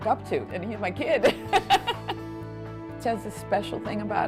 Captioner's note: chuckling